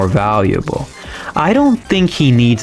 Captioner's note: inhales Oxygen